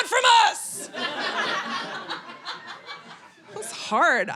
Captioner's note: audience laughing